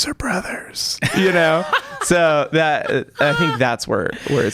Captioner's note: laughter